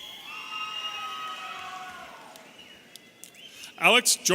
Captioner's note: audience cheering